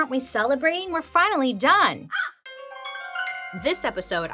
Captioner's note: Joan caws